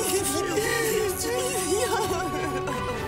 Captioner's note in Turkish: Ağlıyor